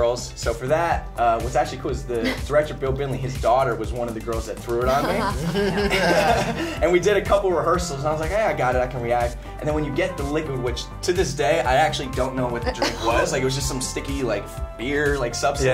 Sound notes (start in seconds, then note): 4.9 laughs